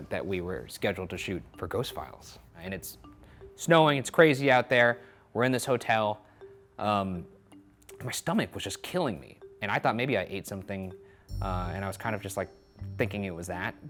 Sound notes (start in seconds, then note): none